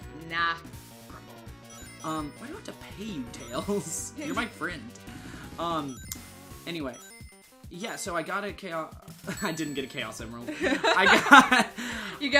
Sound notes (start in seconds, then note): 10.5 both laugh